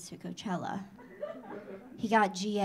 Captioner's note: audience laughing